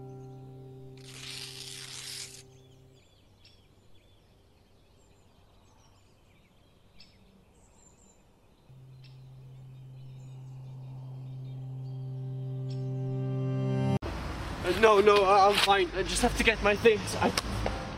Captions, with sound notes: [PAPER TEAR] Uh, no no, I'm fine, I just have to get my things